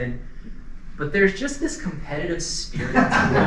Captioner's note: laughter